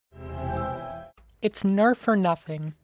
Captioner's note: LEGO® Star Wars™ transition sound effect